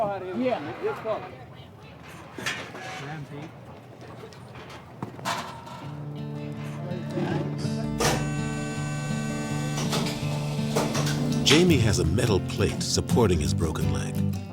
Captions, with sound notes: [sounds of metal clanking] Jamie has a metal plate supporting his broken leg.